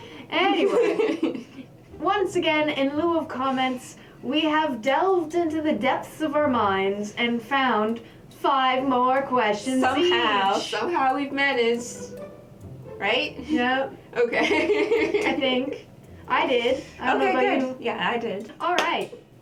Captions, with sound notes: Anyway... once again, in lieu of comments, we have delved into the depths of our minds and found five more questions each! - Somehow! Somehow we've managed! Right? - Yup. Okay. (LAUGHTER) - I think. I did! I don't know about you. - Okay, good. Yeah, I did. [CLAP] Alright!